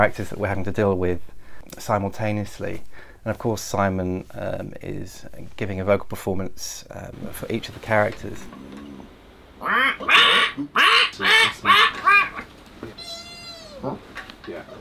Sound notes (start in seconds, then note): 10.1 bird squawking. / Man grumbling